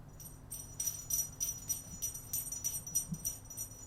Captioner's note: bells jingle